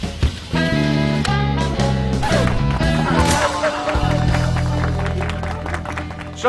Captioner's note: applause; laughter